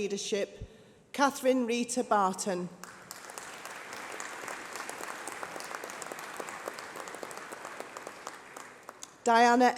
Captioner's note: applause